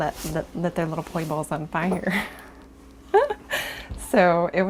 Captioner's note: laughing